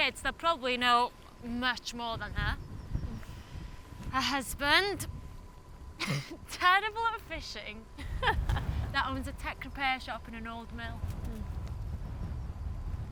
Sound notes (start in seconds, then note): 7.9 laughing